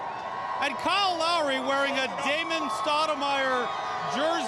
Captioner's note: cheers